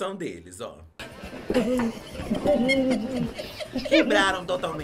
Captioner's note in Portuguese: risos